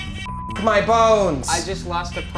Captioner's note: hooter buzzing; beep